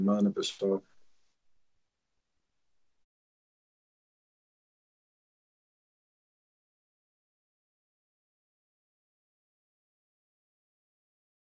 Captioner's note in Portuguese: Silêncio